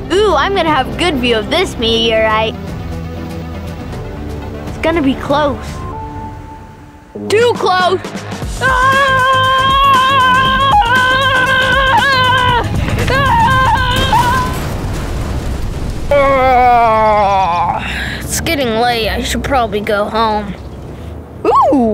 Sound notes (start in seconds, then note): 8.6 screaming; 14.2 explosion